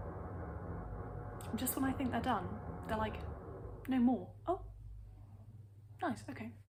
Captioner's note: drilling stops